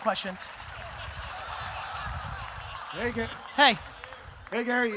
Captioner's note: audience laughter